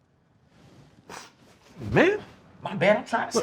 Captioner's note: Raheem sniffing